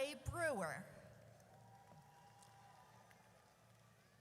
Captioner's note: audience cheers